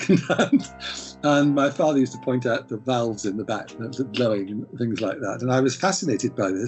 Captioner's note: laughs